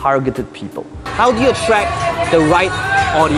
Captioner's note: noisy background